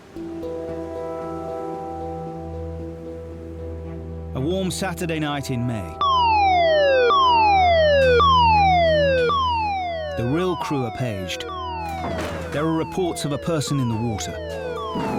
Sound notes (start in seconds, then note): 0.2 gentle music; 6.0 alarm blaring